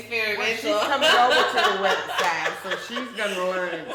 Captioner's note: laughing